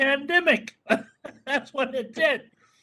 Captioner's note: laughing